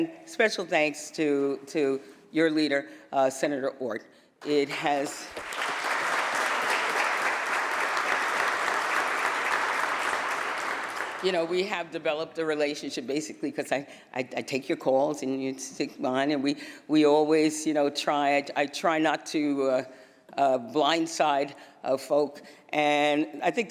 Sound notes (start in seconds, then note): 7.5 applause